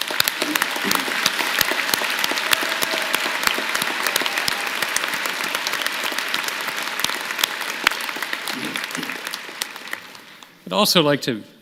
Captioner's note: applause